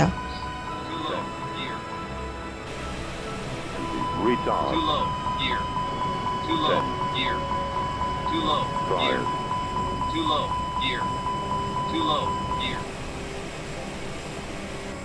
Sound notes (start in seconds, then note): 1.0 beeping followed by instruction to open gear